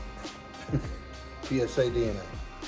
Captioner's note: chuckle